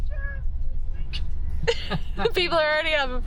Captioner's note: laugh